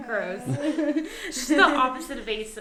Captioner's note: laughing